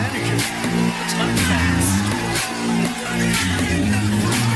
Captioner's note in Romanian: Aplauze